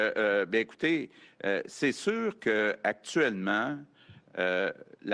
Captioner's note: speaks French